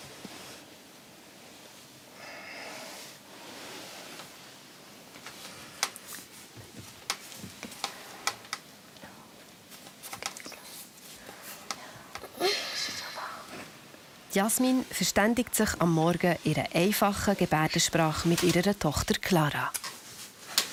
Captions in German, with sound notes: (Flüsternd) Gut geschlafen? Bist du schon wach? Jasmine verständigt sich am Morgen in einer einfachen Gebärdensprache mit ihrer Tochter Clara.